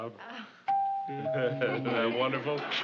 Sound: doorbell rings

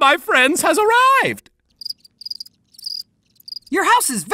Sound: crickets chirping

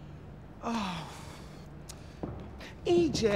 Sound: smacking lips

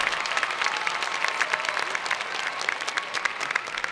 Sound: applause

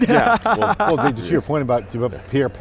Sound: laughing

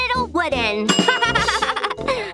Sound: laughing

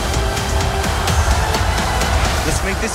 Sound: crowd cheering

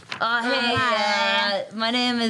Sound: group stammering

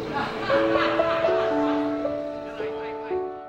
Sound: laughter

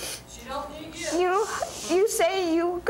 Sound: hushes

